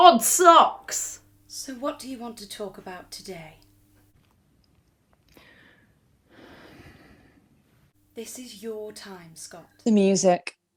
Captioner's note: Sketch audio plays